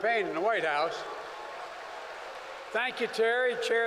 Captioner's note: applause